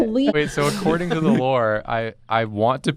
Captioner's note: laughing